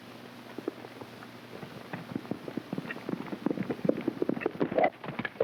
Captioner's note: hooves clopping